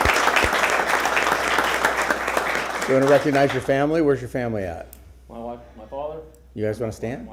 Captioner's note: applause